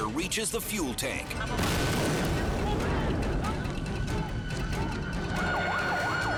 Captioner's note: explosions booming; sirens screaming